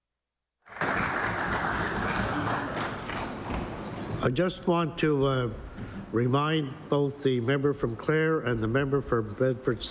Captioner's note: applause